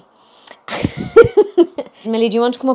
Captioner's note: laughing